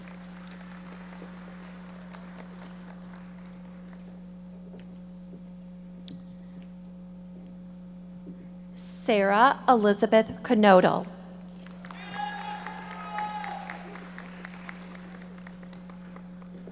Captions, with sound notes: (audience applauding) Sarah Elizabeth Knodle. (audience members cheering and applauding)